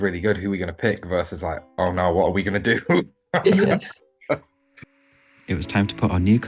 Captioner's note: chuckles